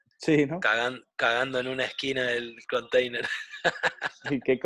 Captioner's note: laughs